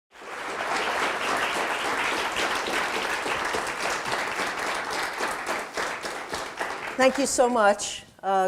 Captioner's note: audience applause